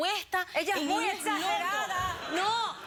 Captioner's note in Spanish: risas